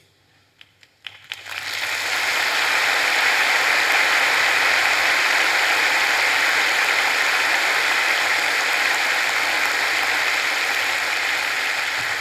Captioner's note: applause